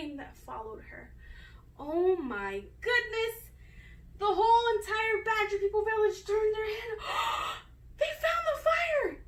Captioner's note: gasp!